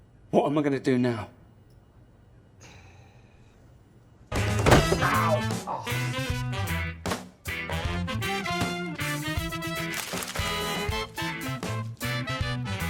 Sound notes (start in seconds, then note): 5.9 sighing; 7.8 lively music